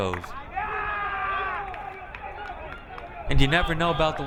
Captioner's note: crowd member yelling